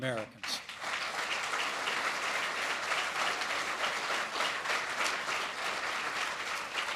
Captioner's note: applause